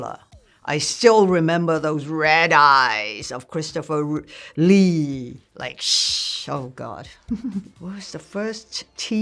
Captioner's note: laughs